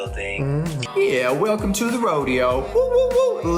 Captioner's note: southern accent